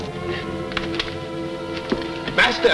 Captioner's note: rocks shift